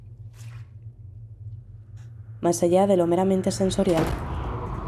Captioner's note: none